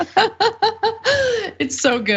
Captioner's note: laugh